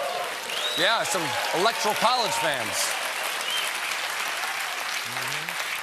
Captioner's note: applause